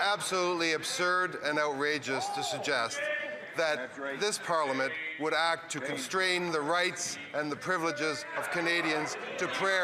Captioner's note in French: voix de l'interprète